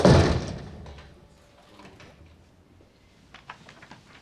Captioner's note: none